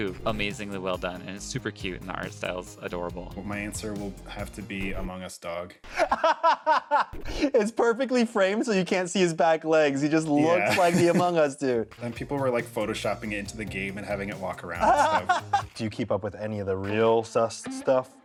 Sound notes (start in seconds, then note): 7.4 laughs; 14.8 laughs